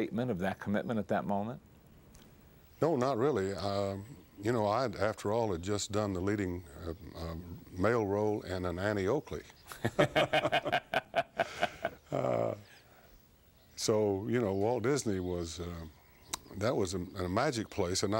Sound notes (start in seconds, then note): 9.7 laughing